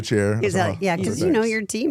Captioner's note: laughing